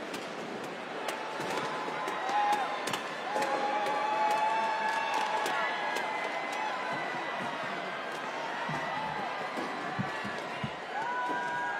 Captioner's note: cheers and applause